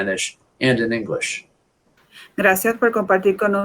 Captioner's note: speaking in Foreign Language